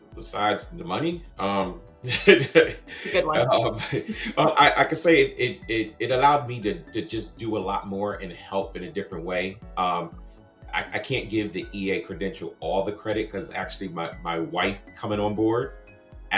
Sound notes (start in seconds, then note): 2.0 laughs